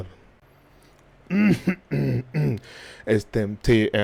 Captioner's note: throat clearing noises